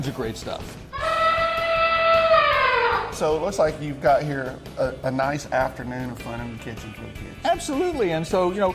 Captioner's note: elephant noise